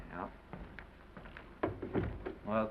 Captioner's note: door closes